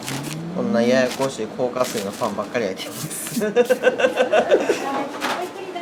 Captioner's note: laugh